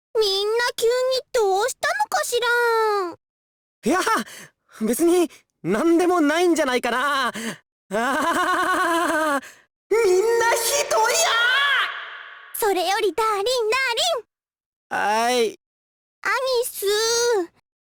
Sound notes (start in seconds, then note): 8.0 awkward laugh